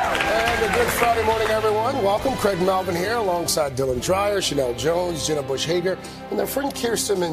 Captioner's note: applause